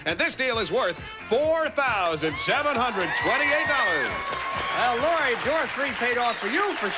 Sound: audience applauding

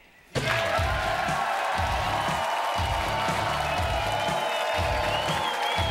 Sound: audience cheering; edgy music

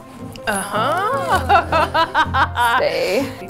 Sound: laughs

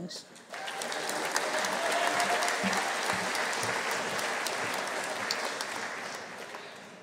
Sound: audience applauding; audience cheering

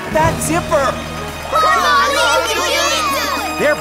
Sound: cheering

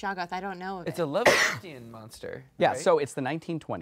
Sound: cough drowns out speaking

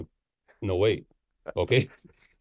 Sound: laughs

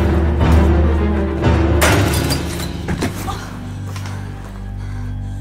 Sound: glass shattering; ominous music

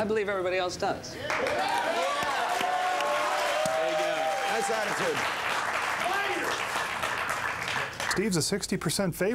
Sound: applause

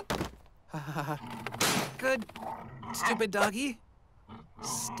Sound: lands with thump; nervous laugh

